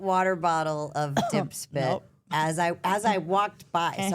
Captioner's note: coughs